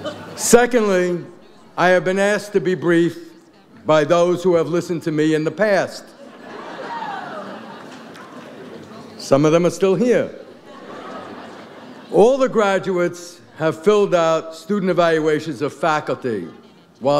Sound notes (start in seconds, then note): 6.0 audience laughs